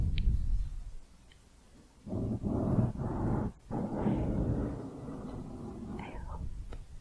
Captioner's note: mic scratching